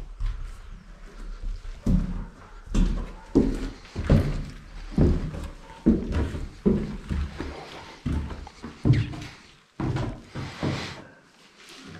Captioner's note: steps